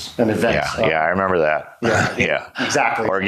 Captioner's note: laughs